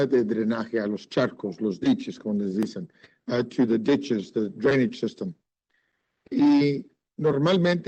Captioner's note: speaking Spanish